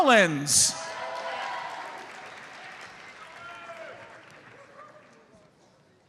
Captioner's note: audience cheers and applauds